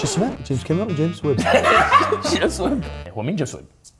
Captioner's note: hysterical laugh